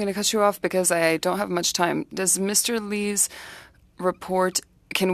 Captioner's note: speaking French